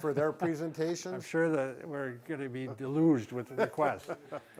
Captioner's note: laughs